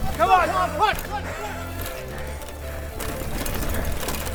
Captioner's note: crowd cheering